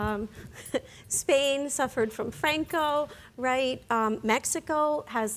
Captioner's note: chuckles